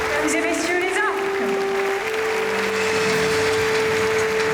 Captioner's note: performer speaking foreign language